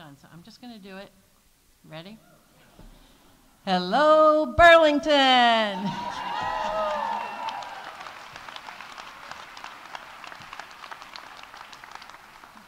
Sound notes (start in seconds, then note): 5.6 audience cheering; 5.9 audience applauding